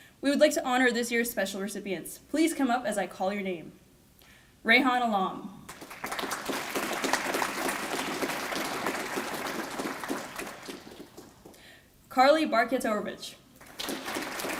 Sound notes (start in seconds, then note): 5.6 applause